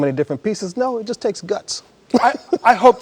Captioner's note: laughs